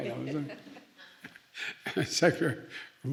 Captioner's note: laughs